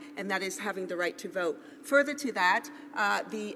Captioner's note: none